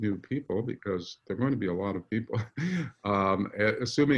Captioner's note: laughs